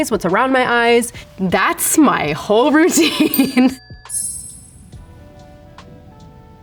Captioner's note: Rachel laughs